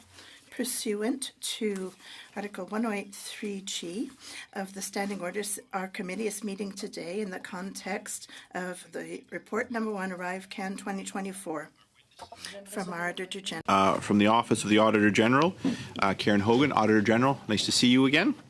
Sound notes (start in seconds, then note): 1.6 speaking French